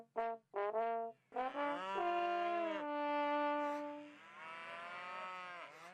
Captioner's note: moo